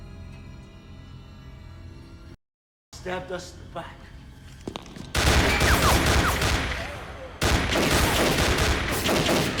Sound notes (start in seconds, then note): 5.1 gunfire clattering